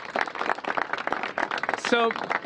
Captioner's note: applause